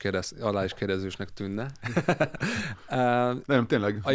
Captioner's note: laughs